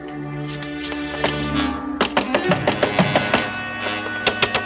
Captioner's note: knocking on door